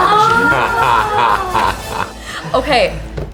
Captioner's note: laughs